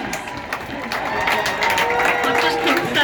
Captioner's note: cheers and applause